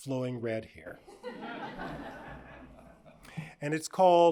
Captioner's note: audience laughs